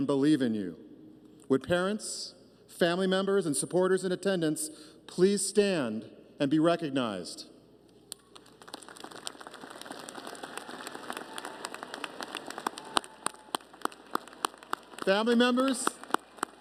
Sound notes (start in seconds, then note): 11.0 applause